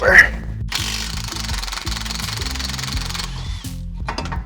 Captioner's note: impact gun whirring